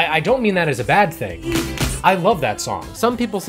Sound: clap clap

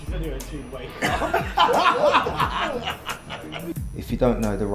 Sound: laughing

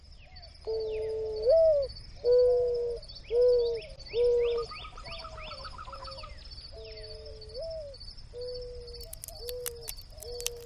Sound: wind and birds; dove cooing; crunching

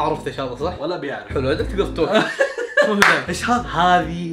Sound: laughter

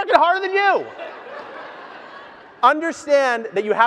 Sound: audience laughs

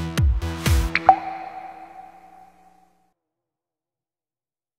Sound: water drop drips

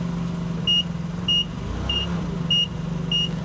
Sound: beeping

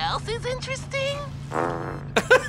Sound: farts

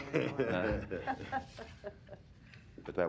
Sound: laughter

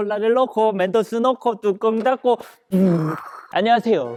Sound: brrrrrrrrr

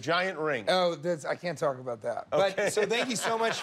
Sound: laughter

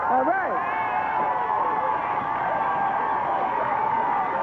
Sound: audience cheering

